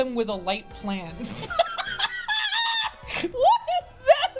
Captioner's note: laughing